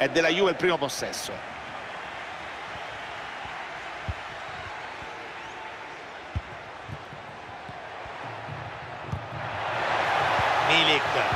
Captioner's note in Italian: Applauso; Applauso